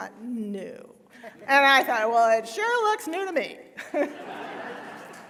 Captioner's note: laughter